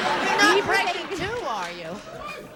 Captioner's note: laughter